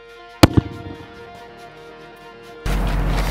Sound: exploding

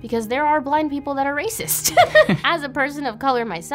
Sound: laughs

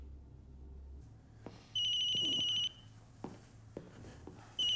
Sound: phone ringing

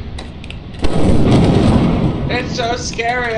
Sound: lightning strikes

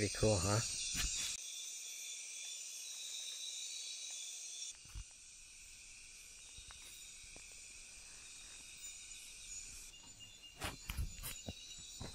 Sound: sounds of insects in the background

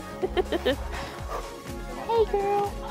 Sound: giggling

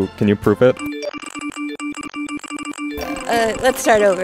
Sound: rapid phone notification sounds

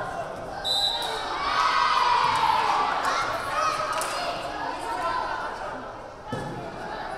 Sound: whistle blaring; crowd cheering

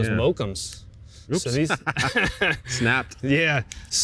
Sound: both laughs

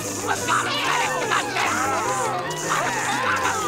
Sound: customers moaning

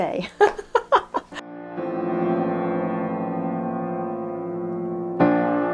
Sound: laughs

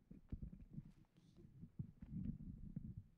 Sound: none

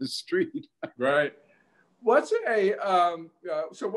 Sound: laughing

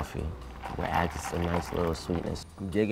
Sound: ice rattling

